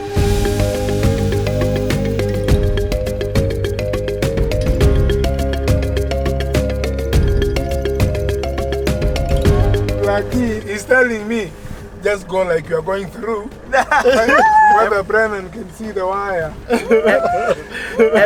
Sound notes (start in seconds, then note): 0.2 laid-back rhythmic music continues; 13.6 laughing amusingly; 13.9 screaming nervously; 16.4 everyone laughing nervously